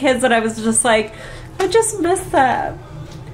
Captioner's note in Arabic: none